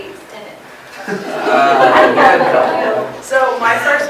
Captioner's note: laughter